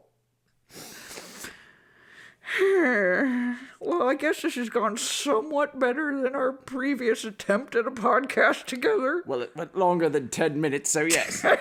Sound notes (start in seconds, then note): 2.4 sighs